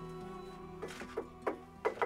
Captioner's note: tapping